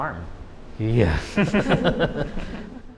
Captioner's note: laughs